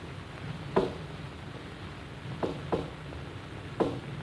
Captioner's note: knocking rhythm